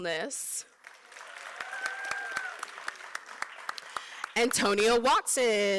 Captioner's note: applause